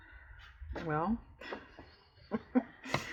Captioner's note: laughs